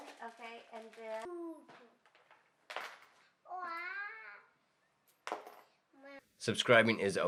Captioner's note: coins dropping